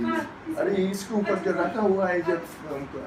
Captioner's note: foreign language